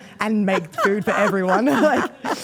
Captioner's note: Steph laughs